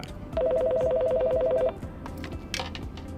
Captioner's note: phone ringing